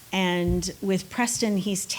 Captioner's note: none